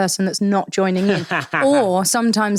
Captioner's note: laughing